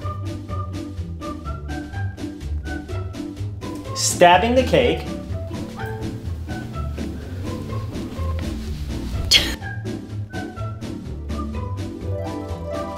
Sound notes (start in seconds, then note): 0.1 bright cheerful music; 5.8 bright cheerful music; 9.1 bright cheerful music; 9.3 chuckle